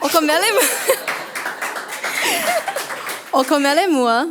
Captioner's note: audience applauds